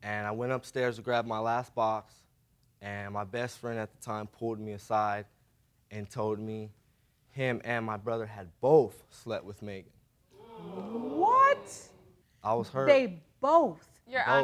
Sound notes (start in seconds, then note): 10.3 audience gasps